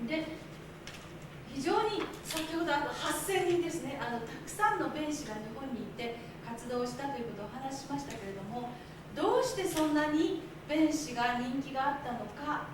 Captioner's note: speaking Japanes